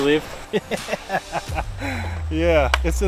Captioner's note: laughs